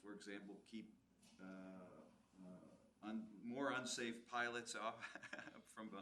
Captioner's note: laughs